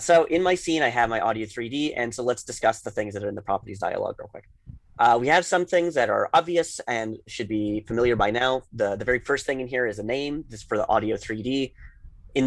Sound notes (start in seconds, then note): none